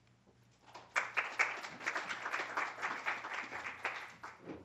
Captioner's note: applause